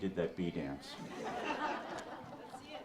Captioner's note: audience laughs